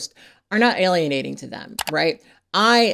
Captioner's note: mouse clicks